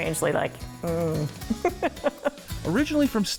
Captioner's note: laughing